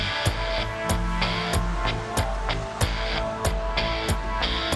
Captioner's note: phone vibrates